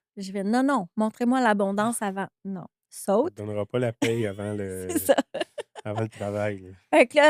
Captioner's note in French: rires